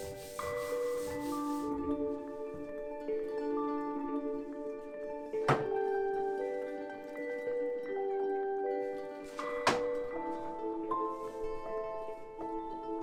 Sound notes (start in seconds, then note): 0.0 hand rubbing; 5.4 tranquil music; 5.5 block banging